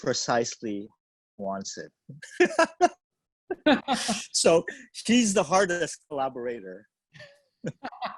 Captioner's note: laughs; both laugh